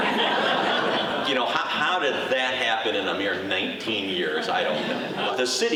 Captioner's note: audience laughing